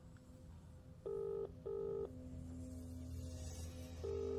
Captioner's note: phone line ringing; tense uneasy music